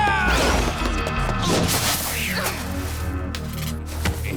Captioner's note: screaming